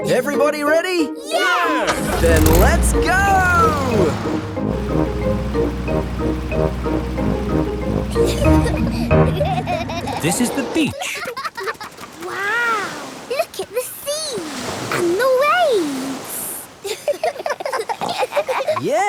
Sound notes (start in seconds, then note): 8.1 children giggling; 16.8 giggling